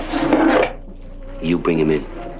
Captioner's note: drawer sliding